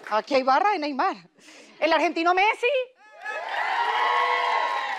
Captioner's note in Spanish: Ovación